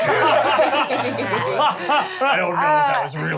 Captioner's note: laughs